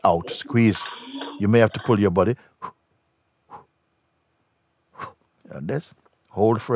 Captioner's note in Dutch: ademt drie keer uit